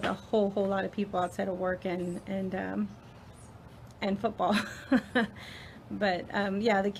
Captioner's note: laughs